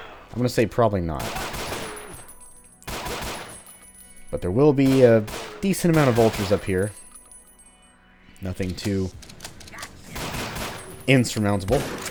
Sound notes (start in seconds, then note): 2.8 gunfight continues; 9.8 bang bang bang